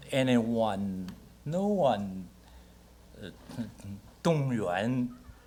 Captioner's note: speaks Mandarin